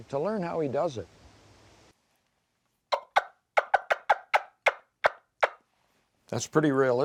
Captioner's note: wing bone turkey call clucking